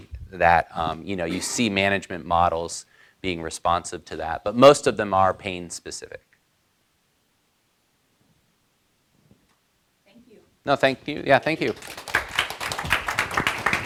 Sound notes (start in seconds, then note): 11.6 applause